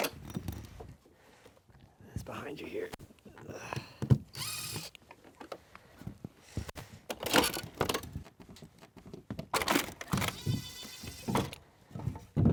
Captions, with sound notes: It's behind you here. (groans) (drill whirring) (gutter creaking) (drill whirring)